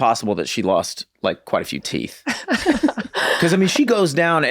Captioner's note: laughs